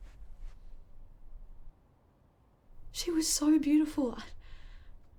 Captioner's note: none